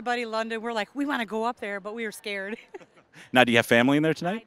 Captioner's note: laughing